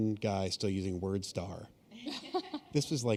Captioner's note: chuckle